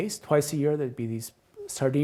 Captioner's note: none